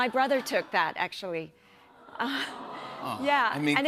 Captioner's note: audience "Awws"